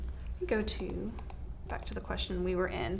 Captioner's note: mouse clicks